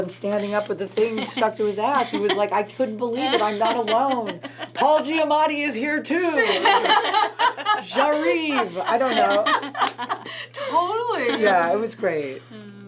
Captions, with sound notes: and standing up with the thing stuck to his ass. He was like, I couldn't believe it, I'm not alone. Paul Giamatti is here too! (everyone laughs) J'arrive! I don't know. - Totally. - Yeah, it was great.